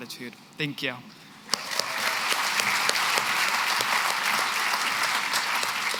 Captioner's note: applause